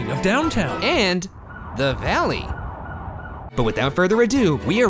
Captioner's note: sirens blaring